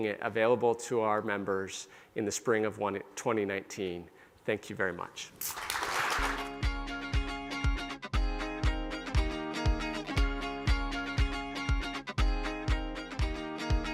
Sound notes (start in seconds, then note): 5.4 applause; 6.5 pop rock music